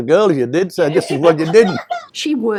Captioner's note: laughter